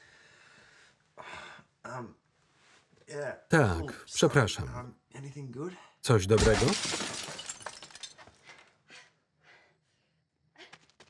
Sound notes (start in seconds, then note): 6.3 window crashing; 9.4 heavy breathing